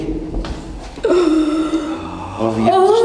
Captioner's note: gasping